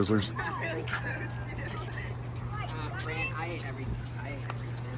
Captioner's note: people chattering